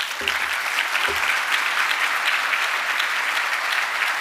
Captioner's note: audience applauding